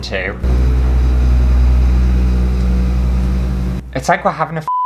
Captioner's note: rumbling Noises